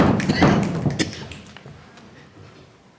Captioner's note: crowd stomping their feet